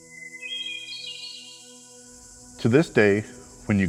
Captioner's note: hermit thrush call